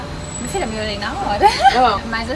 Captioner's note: laugh